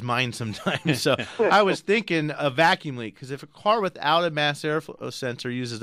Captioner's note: all laugh